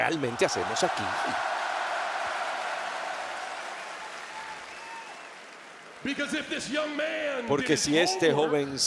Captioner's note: applause